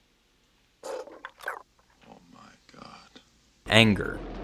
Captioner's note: growls